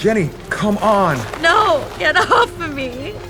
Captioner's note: crying